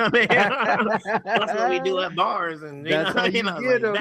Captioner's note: laughing